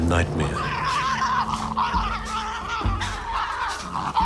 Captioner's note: animals growling